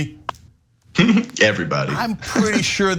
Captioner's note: laugh